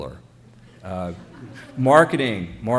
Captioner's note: chuckling